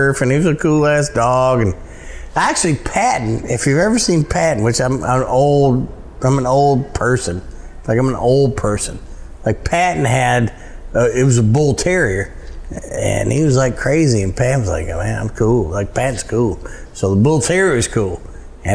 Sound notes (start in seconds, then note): none